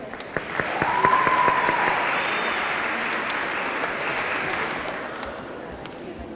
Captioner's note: audience clapping; audience cheering